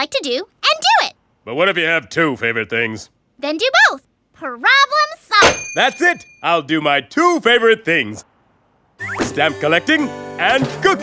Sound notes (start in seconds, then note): none